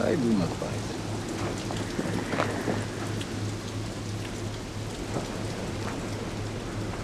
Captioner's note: rain pattering; wind whistling